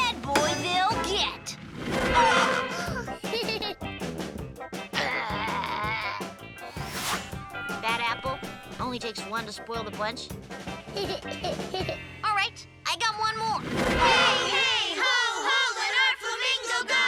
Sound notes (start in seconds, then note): 2.1 laughing; 10.8 laughing